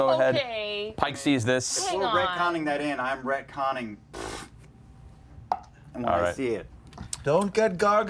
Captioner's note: blows raspberry